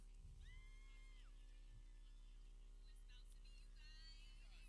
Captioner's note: people cheering